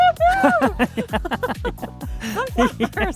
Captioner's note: both laughing